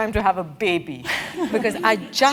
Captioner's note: laugh